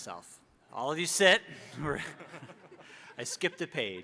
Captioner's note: all laughing